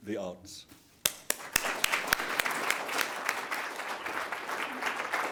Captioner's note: audience applauding